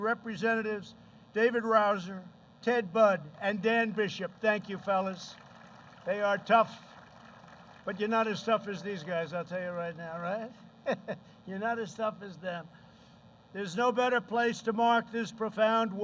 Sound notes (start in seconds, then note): 3.8 applause; 10.8 laughs